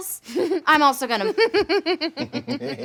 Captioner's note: laughing